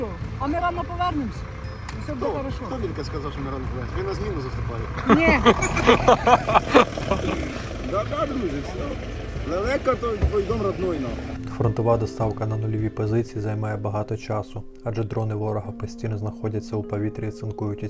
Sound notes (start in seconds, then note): 5.0 laughter